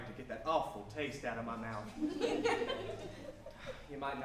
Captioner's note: audience laughs